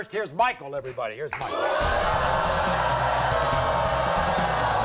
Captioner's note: audience booing